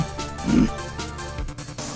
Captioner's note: growls